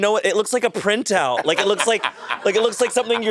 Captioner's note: Monét laughing